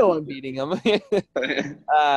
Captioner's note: laughs